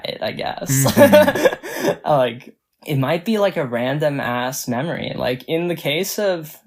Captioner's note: laughs